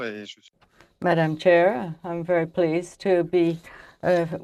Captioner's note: speaking French